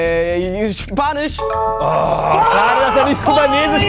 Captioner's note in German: Klingeln, Freudige Laute